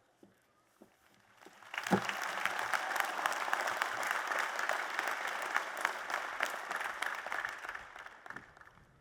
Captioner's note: applause